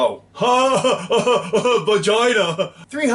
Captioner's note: dumb laughter